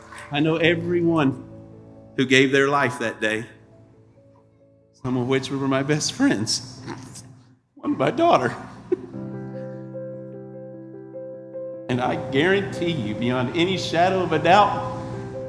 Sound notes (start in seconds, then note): 8.8 weeping